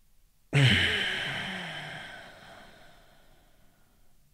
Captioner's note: exhales